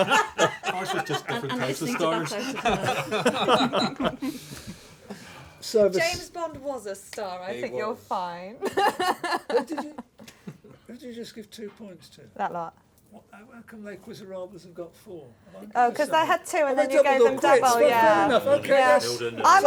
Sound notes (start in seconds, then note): 4.2 laughter; 8.7 laughs